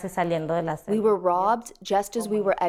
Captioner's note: through translator